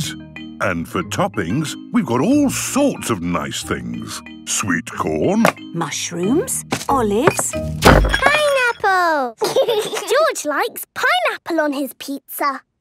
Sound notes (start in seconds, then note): 6.7 bangs; 9.4 laughs